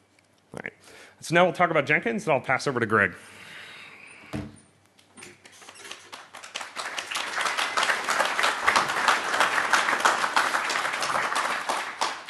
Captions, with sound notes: we'll talk about Jenkins and I'll pass over to Greg. (Applause) >> Thanks, Kyle. So